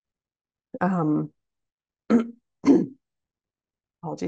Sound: clears throat

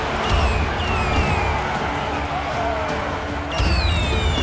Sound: cheering

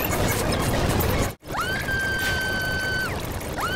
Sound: Rarity Screaming

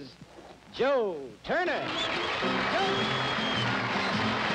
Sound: audience applauding

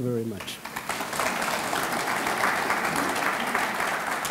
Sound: audience clapping

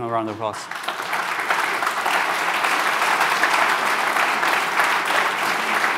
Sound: applause

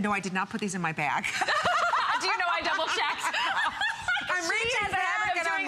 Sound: laughter

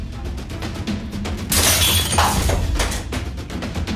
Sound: glass shattering

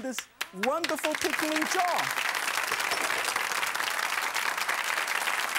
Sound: audience applauds

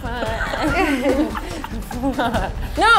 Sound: laughs

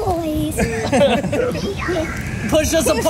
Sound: laughing

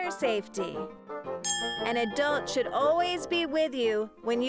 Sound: dings

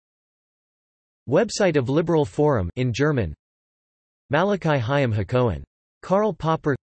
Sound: in German

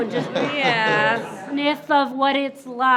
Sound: group laughs

